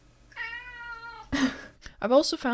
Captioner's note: meow >